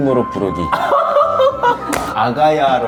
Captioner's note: giggle